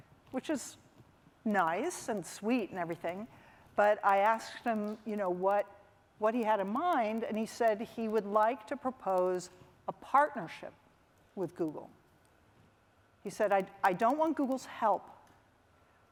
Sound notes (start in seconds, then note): none